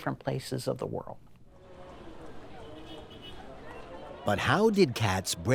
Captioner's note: people talking in background, car horn honks in distance